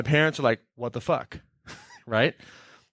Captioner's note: laughing